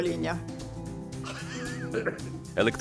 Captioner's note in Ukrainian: сміх